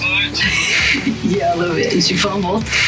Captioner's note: laughs